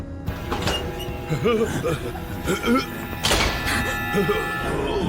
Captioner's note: freaks chattering